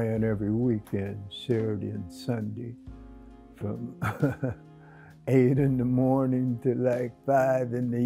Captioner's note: chuckles